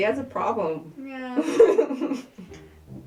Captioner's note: laughter